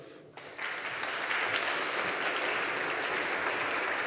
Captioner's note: audience applauding